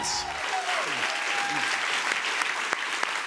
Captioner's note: cheers and applause